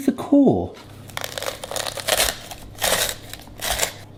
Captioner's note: crunching